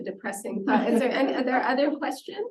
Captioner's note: laughter